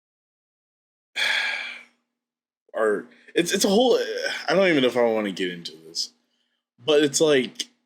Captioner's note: sigh